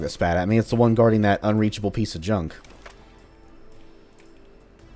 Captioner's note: bam